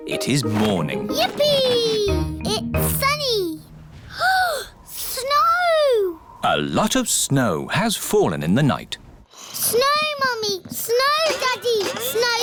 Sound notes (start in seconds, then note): 4.0 gasps